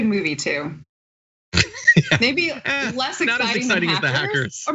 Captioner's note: laugh